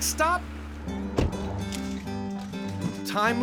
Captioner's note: door closes